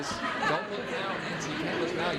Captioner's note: audience laughing